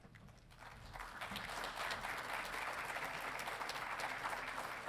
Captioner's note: audience applauding